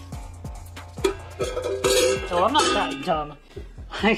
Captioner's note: clang